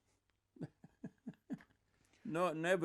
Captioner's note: laughing